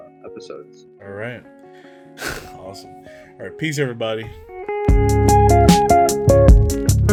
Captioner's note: laughs